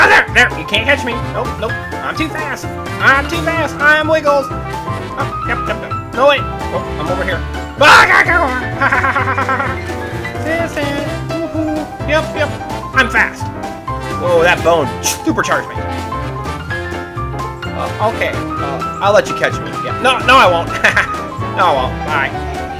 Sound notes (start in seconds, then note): 7.8 laughing; 8.1 yelling; 22.5 saloon piano music